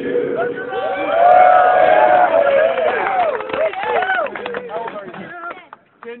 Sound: team cheers

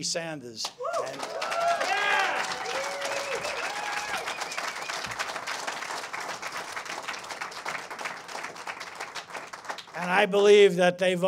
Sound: cheers and applause

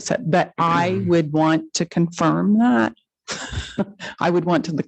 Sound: laughs

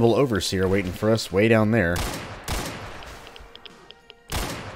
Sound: Colt firing

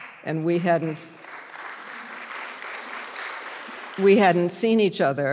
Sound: applause

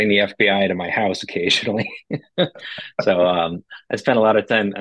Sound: laugh

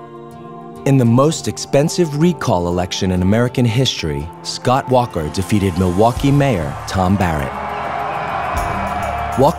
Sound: cheering

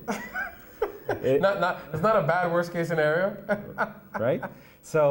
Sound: laughs

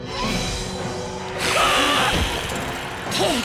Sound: screaming

